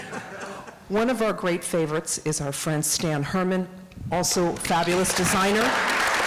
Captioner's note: applause